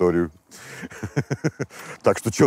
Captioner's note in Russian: усмехается